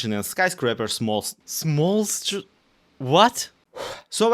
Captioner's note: deep breath